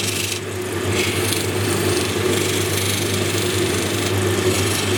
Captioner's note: machine whirring